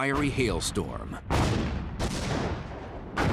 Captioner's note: gunfire